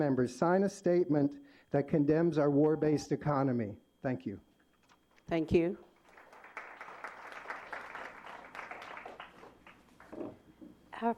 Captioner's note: applause